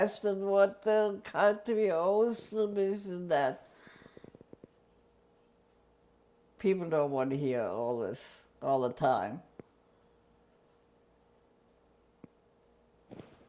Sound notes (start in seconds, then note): 3.6 pauses for 3 seconds